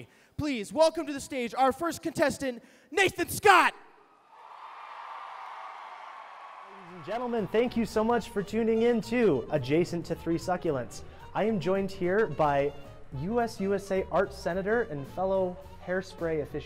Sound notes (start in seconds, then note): 4.0 cheering